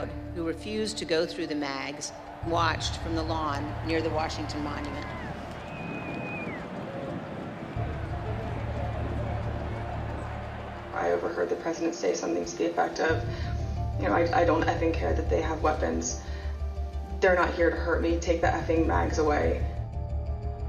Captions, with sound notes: who refused to go through the mags watched from the lawn near the Washington Monument. (cheers and applause) >> I overheard the president say something to the effect of "You know, I don't effing care that they have weapons, "they're not here to hurt me, take the effing mags away.